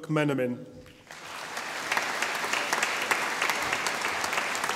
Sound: audience applauding

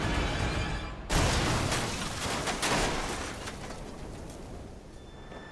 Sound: crashing

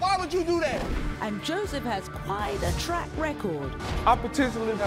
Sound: voiceover

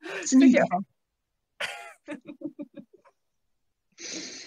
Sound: laughing

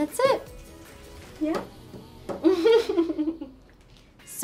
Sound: laughs

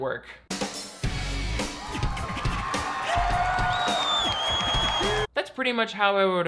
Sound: upbeat music; audience cheering

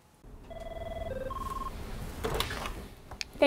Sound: phone Ringing

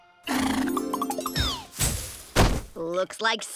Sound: thudding

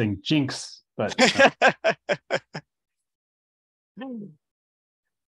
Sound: laughing

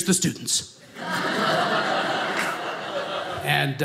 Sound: audience laughing

